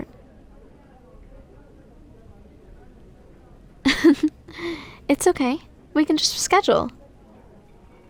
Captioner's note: soft laugh